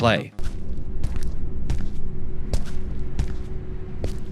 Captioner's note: footsteps walking